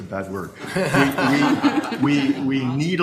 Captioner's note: room laughter